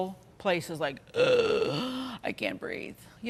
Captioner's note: groans